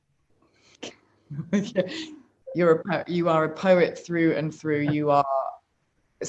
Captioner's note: laughs; chuckles